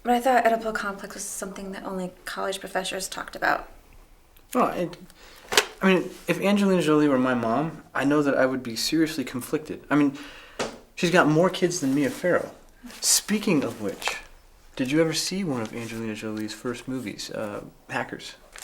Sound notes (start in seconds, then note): none